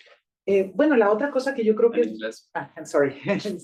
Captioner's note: speaking Spanish